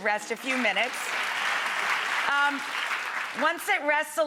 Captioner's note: crowd cheering and clapping